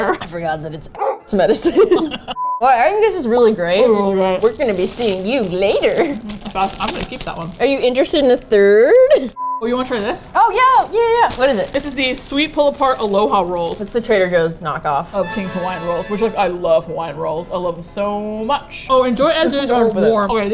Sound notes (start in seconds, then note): 1.6 both laugh; 3.5 mouth full; 4.4 cheerfully